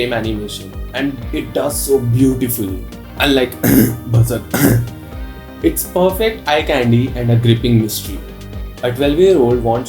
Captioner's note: cough